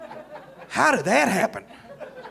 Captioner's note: audience laughing